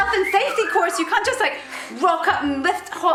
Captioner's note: whistles